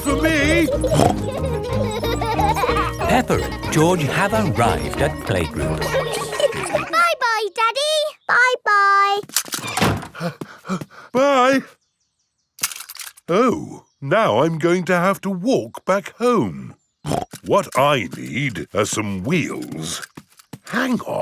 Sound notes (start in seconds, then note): 1.2 snorts; 7.0 snorts; 10.1 panting; 17.0 snorts